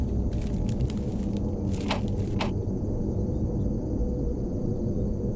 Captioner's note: knocking on door